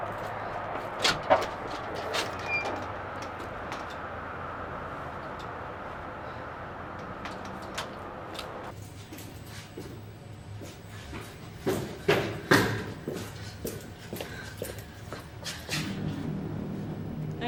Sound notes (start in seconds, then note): 1.0 door squeaks; 10.5 footsteps clomping; 15.7 suspenseful music